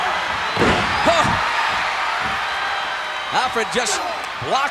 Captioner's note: audience cheering